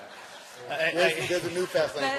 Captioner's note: laughter